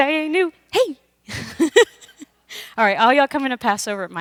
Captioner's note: laughs